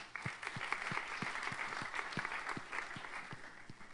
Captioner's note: applause